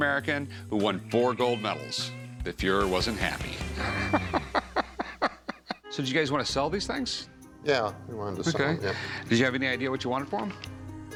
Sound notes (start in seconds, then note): 3.7 laughs